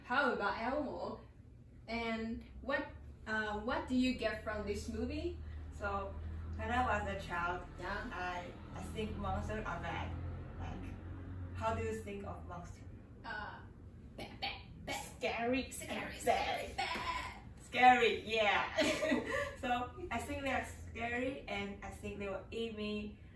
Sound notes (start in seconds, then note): 19.2 尬笑